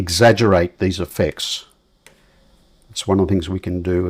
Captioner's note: silence